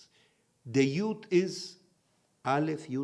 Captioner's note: in Hebrew